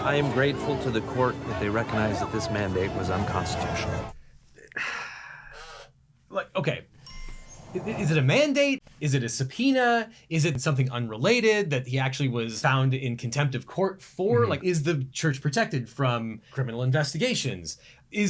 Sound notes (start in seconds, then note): 4.6 sighs